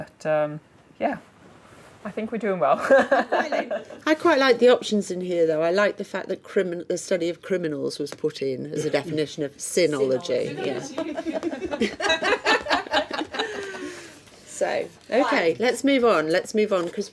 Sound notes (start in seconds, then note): 2.9 laughing; 10.6 laughing